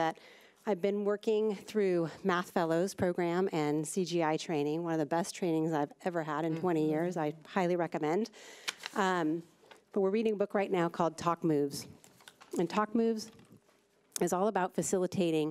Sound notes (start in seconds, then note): none